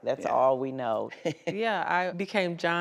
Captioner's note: laughs